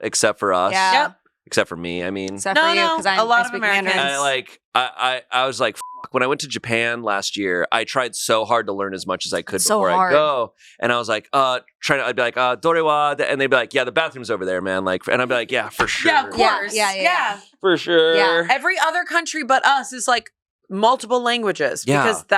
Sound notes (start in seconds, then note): 5.8 beep; 12.7 speaks foreign language